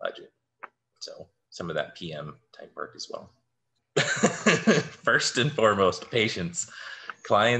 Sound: laughter

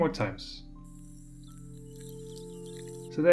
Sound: sped-up cutting sounds

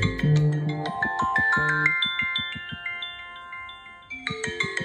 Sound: Forest app chimes

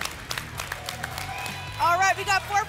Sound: applause and cheering

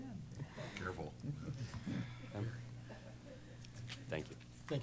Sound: laughter

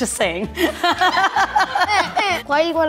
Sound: laughing

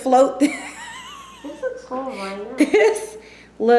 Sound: laughter

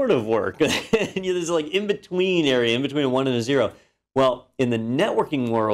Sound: laugh

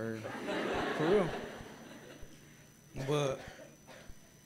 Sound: gathering laughing

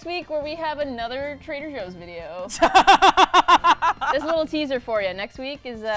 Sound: laughs

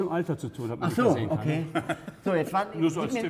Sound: laughter

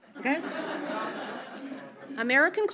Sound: audience laughs softly

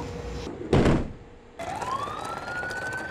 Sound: doors thud; sirens wailing

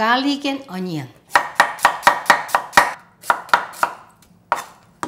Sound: knife chopping

